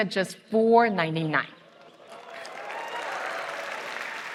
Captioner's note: applause